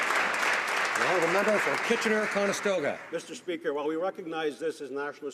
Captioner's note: some Applause